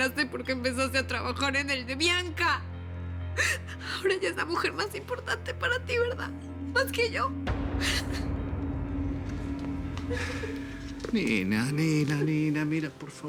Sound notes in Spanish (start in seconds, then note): 10.0 Sollozos